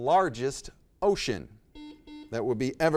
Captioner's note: buzzer dings